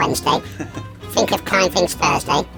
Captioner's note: laughs